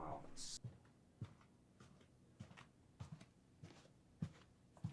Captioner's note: footsteps tapping